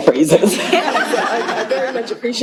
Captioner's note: laughter